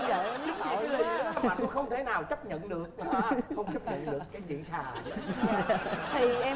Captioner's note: laughing